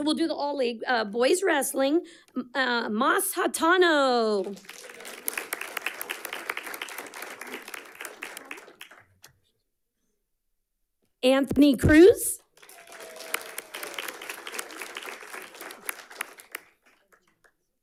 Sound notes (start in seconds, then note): 4.4 audience clapping; 12.5 audience clapping and cheering